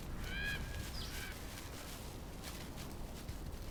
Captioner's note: birds chirping